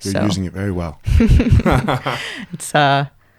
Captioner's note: both laugh